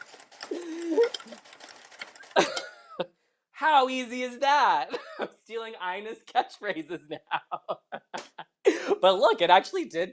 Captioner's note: laughter